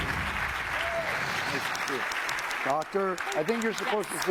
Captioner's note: applause